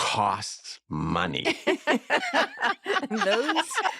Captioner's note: all laugh